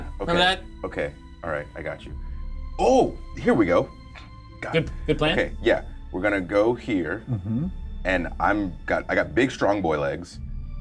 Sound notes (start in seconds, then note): none